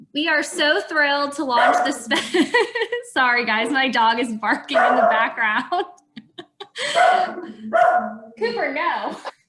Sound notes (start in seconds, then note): 1.5 dog barking; 2.0 laughing